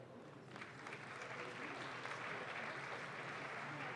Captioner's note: audience claps